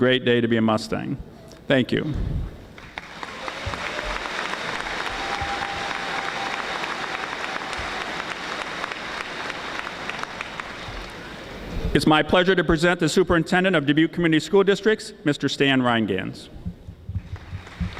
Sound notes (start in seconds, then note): 2.7 audience applauding; 17.2 audience applauding